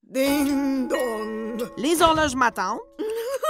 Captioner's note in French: rire